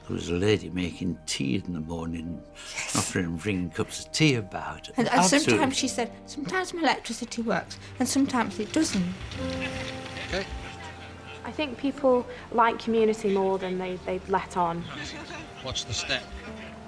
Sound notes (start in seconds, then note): 9.4 water trickles; 10.7 boat droning